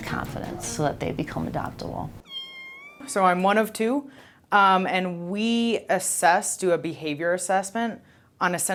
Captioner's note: kitten Meows